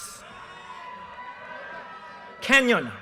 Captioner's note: audience cheers and applause